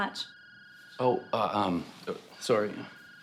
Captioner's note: phone ringing